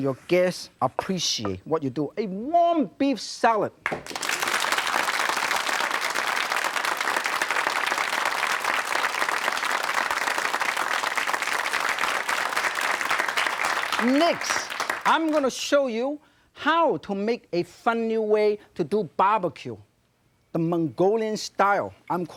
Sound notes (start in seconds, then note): 3.6 audience applause